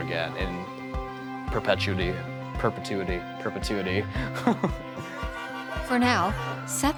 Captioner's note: laughs